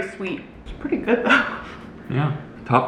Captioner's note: chuckles